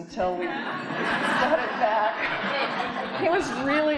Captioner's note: audience laughing